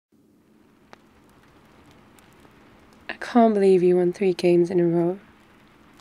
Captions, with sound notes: *Fireplace and thunderstorm ambience throughout* I can't believe you won three games in a row